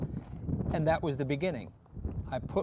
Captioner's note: none